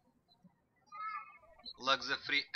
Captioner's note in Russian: птички щебечут